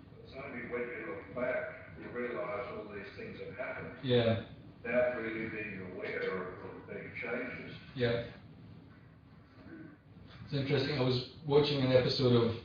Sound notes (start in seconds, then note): 5.1 audio distorts